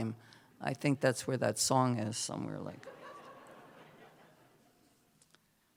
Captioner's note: laughter